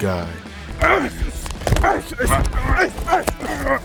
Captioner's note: grunting